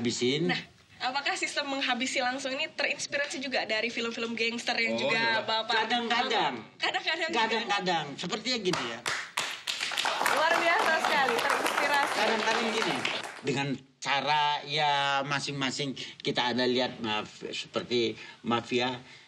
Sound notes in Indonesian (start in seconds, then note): 8.7 tepuk tangan